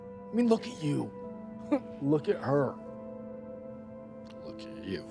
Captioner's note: laughs